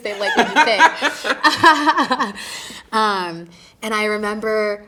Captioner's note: both laughing